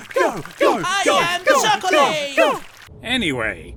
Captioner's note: contestants chanting "go! go! go!"